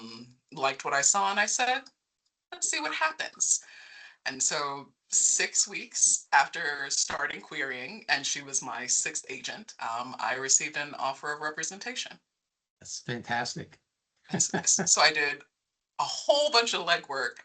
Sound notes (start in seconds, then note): 14.3 laughing